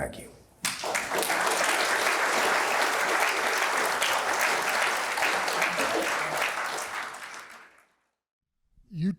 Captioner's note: applause